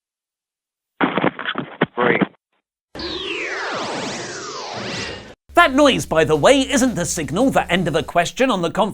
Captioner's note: fun noise